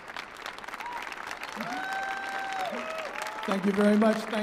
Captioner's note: audience applauding and cheering